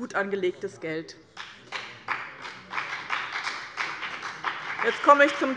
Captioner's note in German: Beifall bei dem BÜNDNIS 90/DIE GRÜNEN und der CDU